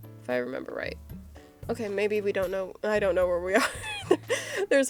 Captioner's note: laughs